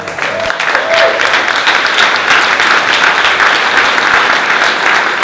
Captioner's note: audience claps